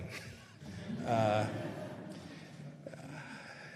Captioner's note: laughter